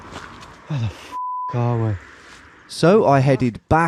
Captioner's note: beep